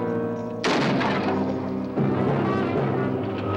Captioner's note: gun fires